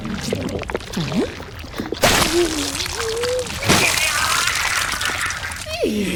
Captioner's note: viscous liquid sounds and struggling noises